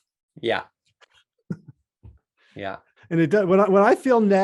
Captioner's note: laughing